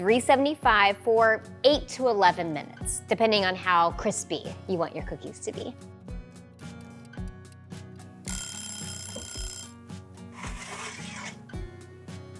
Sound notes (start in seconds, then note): 6.0 timer ticking; 8.2 timer ringing